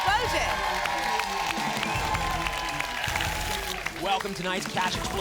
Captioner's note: applause